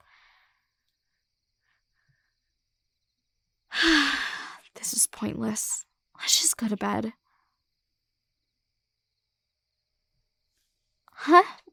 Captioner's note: sigh